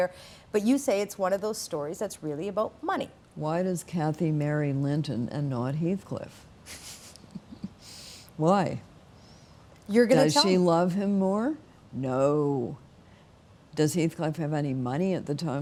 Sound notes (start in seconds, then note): 6.7 laughing